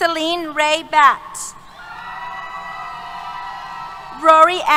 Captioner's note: cheers